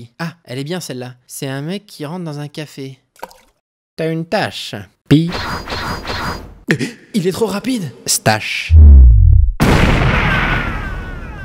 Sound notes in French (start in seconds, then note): 3.2 plouf; 5.3 effets sonores